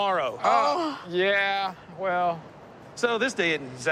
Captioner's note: groans